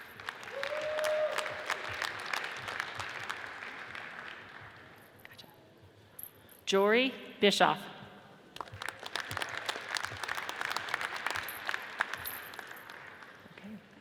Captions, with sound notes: (audience cheers and applauds) Jorey Bischof, (audience cheers and applauds)